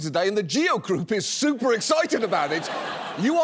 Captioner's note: audience laughs